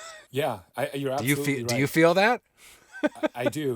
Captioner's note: laughing; laughing